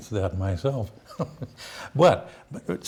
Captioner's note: laughs